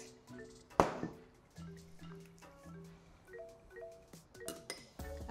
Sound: bowl clunking on counter

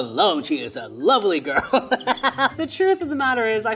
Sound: laughs

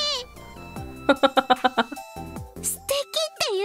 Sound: chuckles

